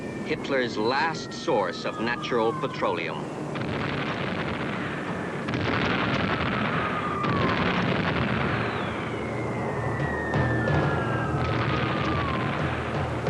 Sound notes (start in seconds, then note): 3.9 explosions booming; 9.1 bombs whistling